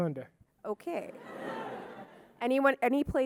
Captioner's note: audience laughing